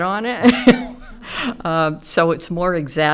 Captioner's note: chuckles